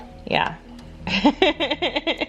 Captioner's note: laughs